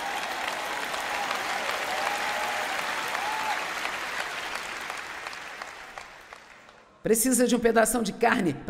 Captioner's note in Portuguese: audiência aplaude